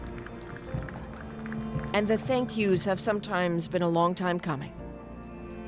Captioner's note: applause